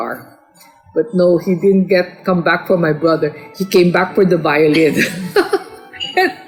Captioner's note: laugh